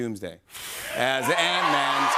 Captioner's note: cheers and applause